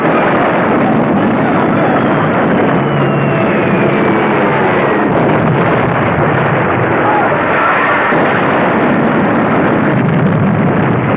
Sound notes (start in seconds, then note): 1.7 bomb whistling